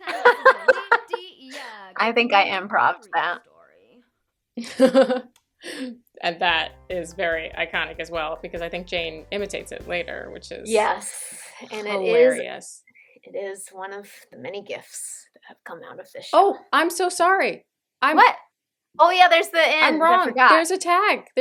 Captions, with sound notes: [laughter] I think I improv'd that. [laughter] And that...is very iconic as well, because I think Jane imitates it, later, which is...hilarious. - Yes. And it is, it is one of the many gifts that have come out of this show. Oh! I'm so sorry! I— - What? Oh, there's the end! - I'm wrong! There's a tag! There's a tag!